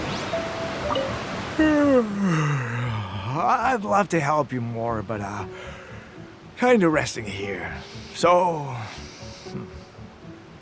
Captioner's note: yawn